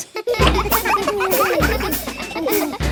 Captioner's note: children laughing